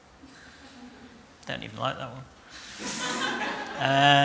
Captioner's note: laughter